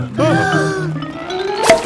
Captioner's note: breathing in